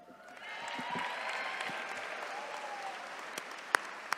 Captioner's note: attendees cheering